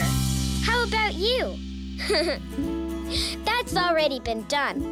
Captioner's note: laughs